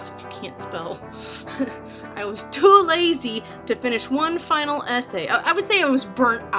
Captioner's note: laughs at self